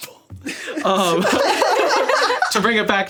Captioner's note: all laughing